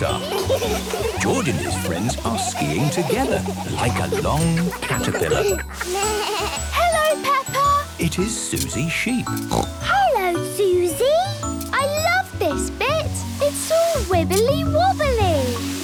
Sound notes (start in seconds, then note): 5.6 bleating; 9.4 snorting